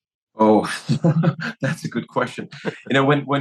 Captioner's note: laugh